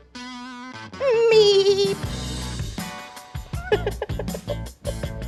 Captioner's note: goat bleating; laughing